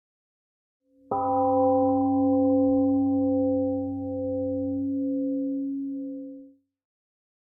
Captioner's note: temple gong rings and fades